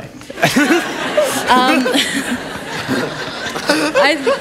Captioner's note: laughter